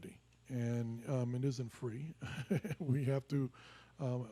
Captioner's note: laughs